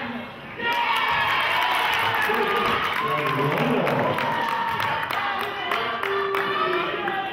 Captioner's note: cheering and clapping